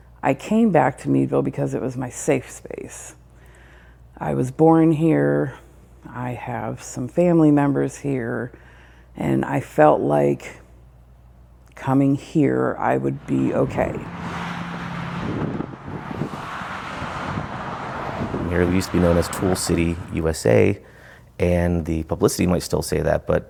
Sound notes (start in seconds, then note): 15.2 car engines roaring